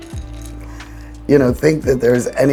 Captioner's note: chocolate chips shuffling